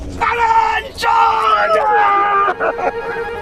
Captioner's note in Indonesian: berteriak